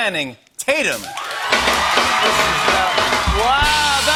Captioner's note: cheers and applause